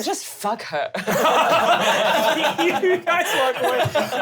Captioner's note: laughing